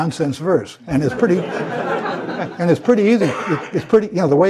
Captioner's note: laugh